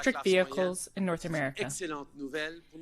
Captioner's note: speaking French